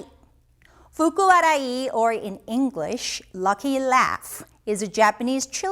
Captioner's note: speaking in Japanese language